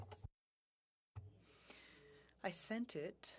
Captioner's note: speaking French